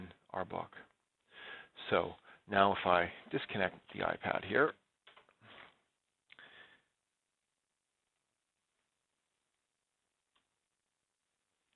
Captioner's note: pause